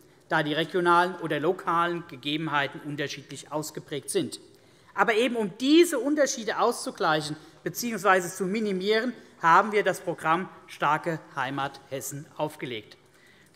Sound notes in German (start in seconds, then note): none